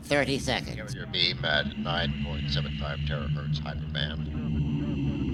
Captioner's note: radio chatter